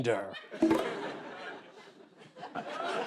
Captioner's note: beep